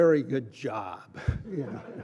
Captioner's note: laughter